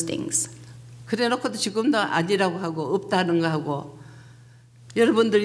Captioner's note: speaking foreign language